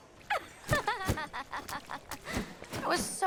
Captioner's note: mermaid laughs